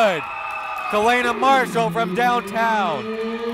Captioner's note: cheering